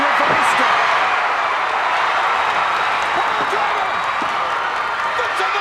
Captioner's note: applause